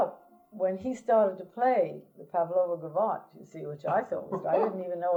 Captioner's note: laughter